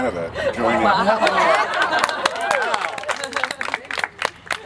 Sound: applause

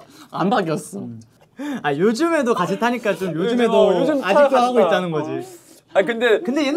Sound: haha

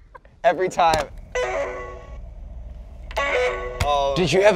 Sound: "You've got mail" sound

